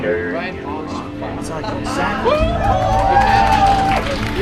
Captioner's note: cheering